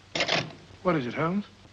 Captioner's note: phone clicks down